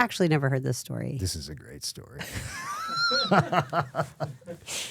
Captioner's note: laughing